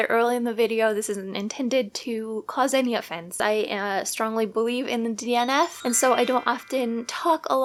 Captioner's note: trill